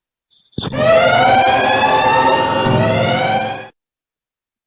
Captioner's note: alarm sounds